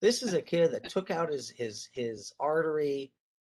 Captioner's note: chuckles